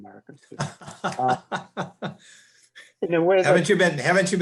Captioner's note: chuckling